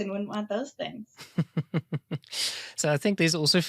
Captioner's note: laughing